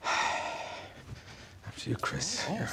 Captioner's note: sighs